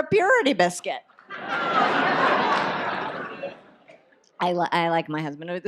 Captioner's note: audience laughs